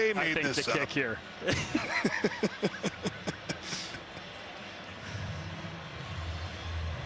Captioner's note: laughter